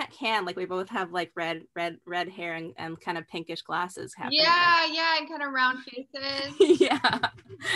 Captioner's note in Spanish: Ambos ríen